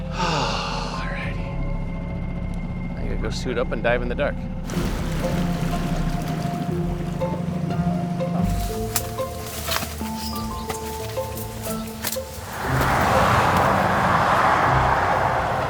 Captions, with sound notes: All righty. I gotta go suit up and dive in the dark. (water sloshing) (relaxing music) (cars droning)